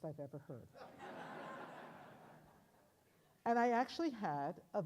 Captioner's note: audience laughs